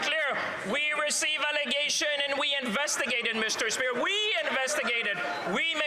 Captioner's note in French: voix de l'interprète